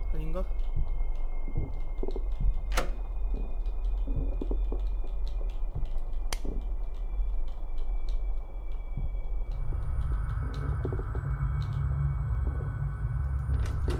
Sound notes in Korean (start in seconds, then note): none